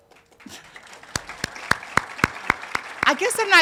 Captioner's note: audience applauding